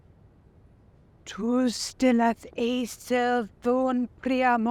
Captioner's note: speaking in foreign language